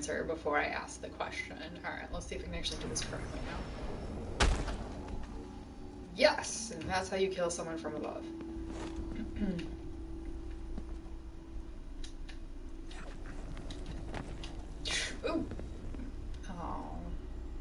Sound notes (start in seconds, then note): 9.2 clears throat